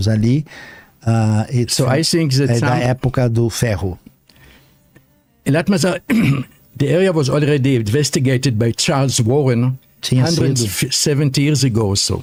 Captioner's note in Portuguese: limpando a garganta